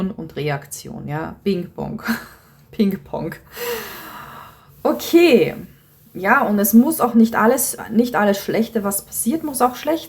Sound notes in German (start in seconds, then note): 3.6 seufzt